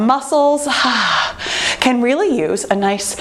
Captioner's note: breathes out